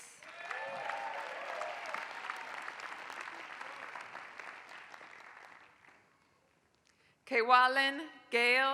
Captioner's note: applause